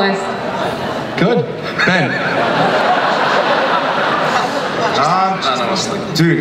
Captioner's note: audience laughs